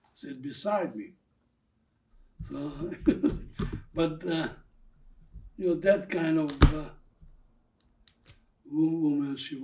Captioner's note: laughing